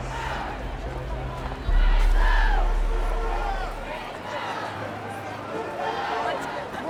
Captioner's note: crowds chanting